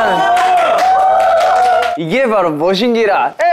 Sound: clap

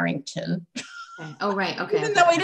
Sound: laughter

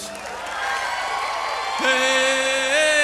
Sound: audience cheers and applauds

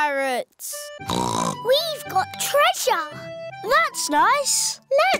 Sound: snorts

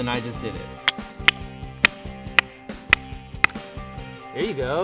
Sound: whacking

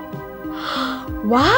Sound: gasps

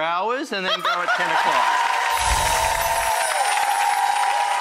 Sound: audience applause

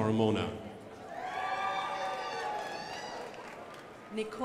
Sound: crowd applauding

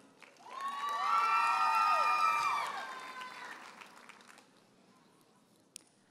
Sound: audience cheers and applauds

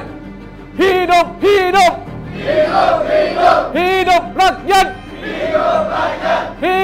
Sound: chanting

